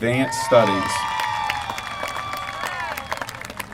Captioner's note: applause